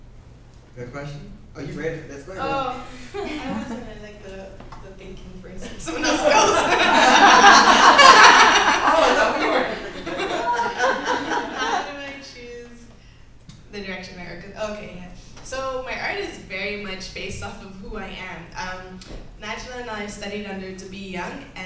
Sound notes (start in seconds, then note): 10.1 laughs